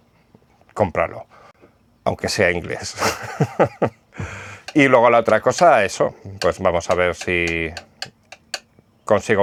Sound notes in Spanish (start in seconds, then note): 2.9 risas